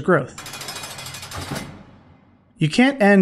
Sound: A jail cell door closes

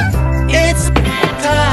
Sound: sound of stick hitting a carbon-based lifeform commonly referred to as Scott

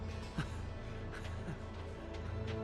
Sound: laughs

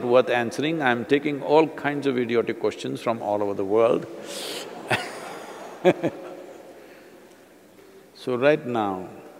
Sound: laughs

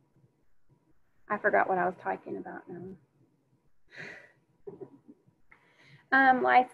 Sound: chuckles

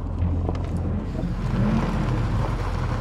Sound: car engine roaring

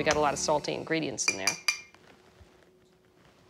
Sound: spoon tapping glass

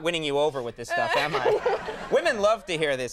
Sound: Molly and audience laughing

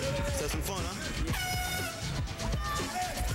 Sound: horn toots

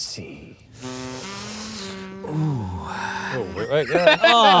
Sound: sucks in hair through teeth

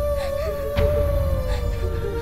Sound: Chinni crying

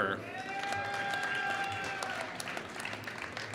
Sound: applause

